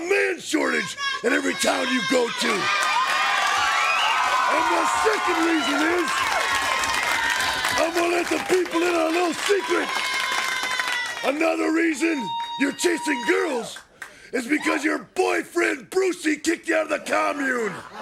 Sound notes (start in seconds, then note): 4.3 crowd cheering